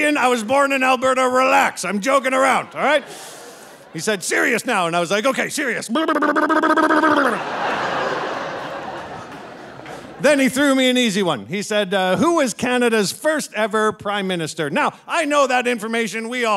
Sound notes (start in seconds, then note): 5.9 lips fluttering; 6.0 audience laughing